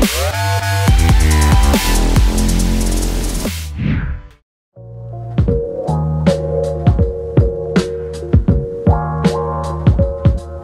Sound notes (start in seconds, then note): 3.6 screen whooshes; 4.8 light airy music